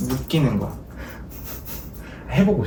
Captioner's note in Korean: 웃음